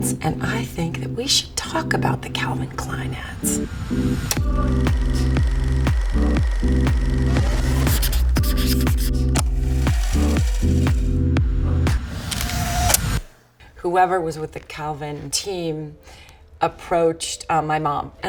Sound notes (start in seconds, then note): 3.8 chill music; 7.3 marker scratching